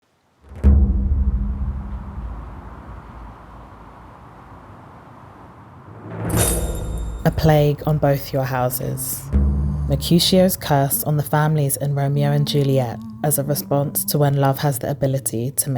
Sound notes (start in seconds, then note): 0.7 wind blowing